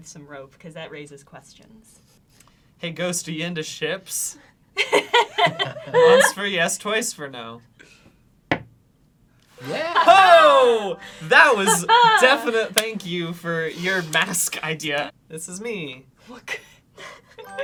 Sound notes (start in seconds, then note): 4.8 laughs; 8.5 knocks once